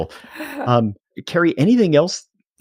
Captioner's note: chuckle